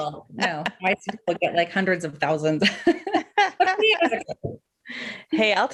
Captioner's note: laughs